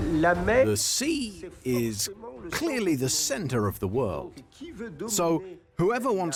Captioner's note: voiceover